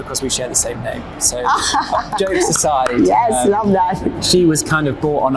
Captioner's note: laughs